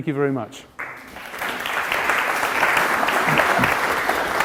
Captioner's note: audience applauding